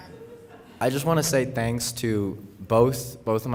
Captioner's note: laughter